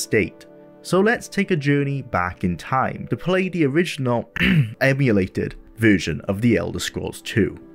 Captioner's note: cough